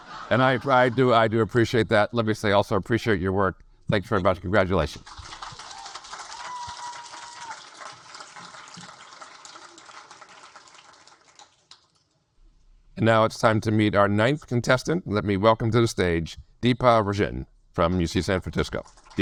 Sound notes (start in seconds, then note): 5.0 audience applaud